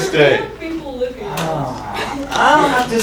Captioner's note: talking